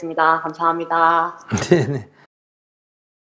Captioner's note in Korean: 스님 웃음